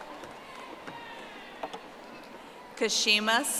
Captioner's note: audience applauding